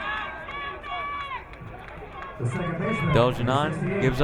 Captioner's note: crowd cheering